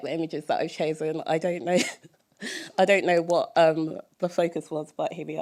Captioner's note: laughter